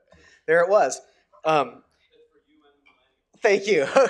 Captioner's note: someone speaking off microphone